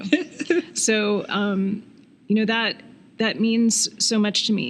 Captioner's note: laughing